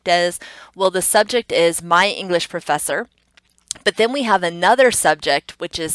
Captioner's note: tongue clicks